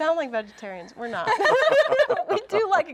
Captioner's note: all laugh